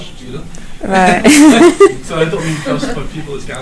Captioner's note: she and man laugh